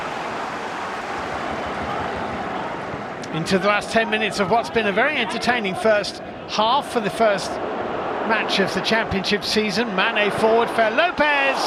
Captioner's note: audience oohs